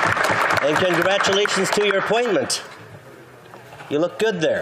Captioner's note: applause